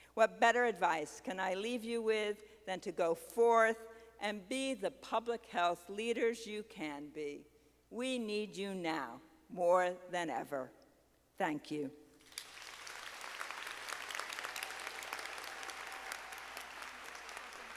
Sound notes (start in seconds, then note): 12.2 audience applauding